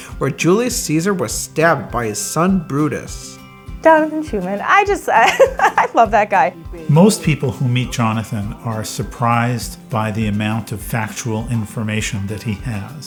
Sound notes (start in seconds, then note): 5.0 laughs